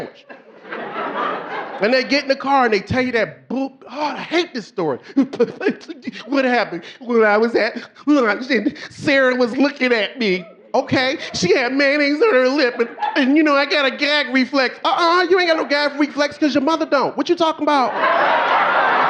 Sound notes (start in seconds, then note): 0.0 audience laughing; 6.3 sobbing; 9.0 snorting